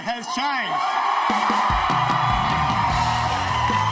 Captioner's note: crowd cheers